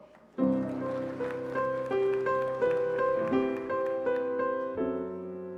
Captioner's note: applause